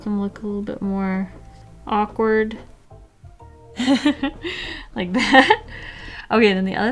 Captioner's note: giggle